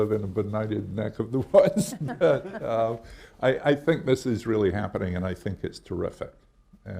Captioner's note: laughs